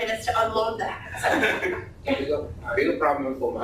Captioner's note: laughter